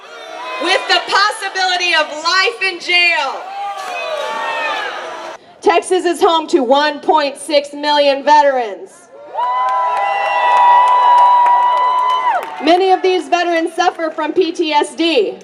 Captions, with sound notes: with the possibility of life in jail. Texas is home to 1.6 million veterans. [cheering] Many of these veterans suffer from PTSD.